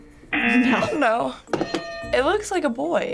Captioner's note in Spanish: zumbador; suena la campana